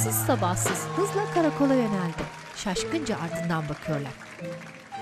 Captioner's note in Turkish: Fonda alkış ve ıslık sesleri